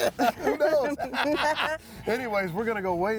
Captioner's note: both chuckling